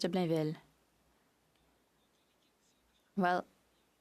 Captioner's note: speaking French